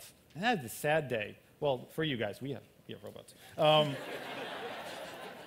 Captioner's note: laughter